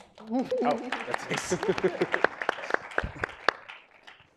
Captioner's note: audience applauding